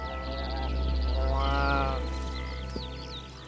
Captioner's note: bleating